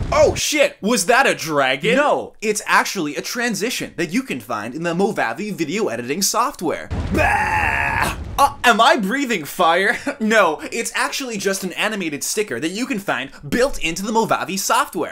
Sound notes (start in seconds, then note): 6.9 Vomit Noise from Jreg with Fire SFX overlapped